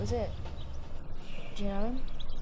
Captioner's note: Simon's Alternate Personality mumbling